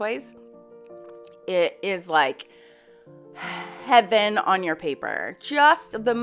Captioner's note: exhaling